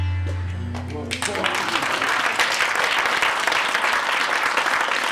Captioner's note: applause